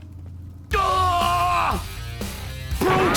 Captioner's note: yells; metal music plays